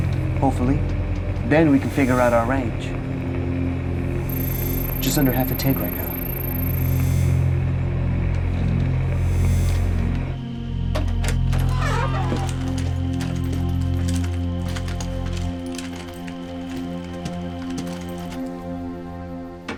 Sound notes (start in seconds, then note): 10.9 door creak